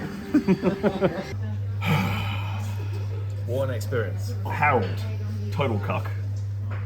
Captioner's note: sigh